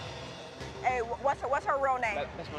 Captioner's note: none